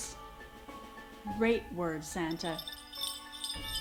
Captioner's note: sleigh bells jingling